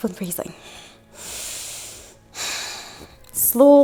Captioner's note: inhales and exhales